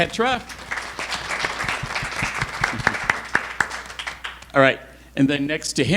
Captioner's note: audience applauding